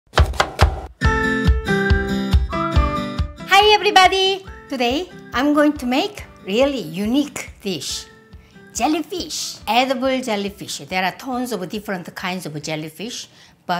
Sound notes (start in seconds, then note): 0.1 chopping; 1.7 upbeat music